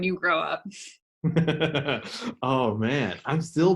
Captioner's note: laughs